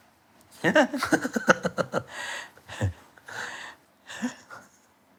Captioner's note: chuckling